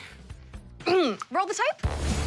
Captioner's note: clears throat